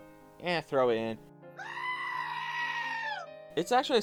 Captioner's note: outdated goat scream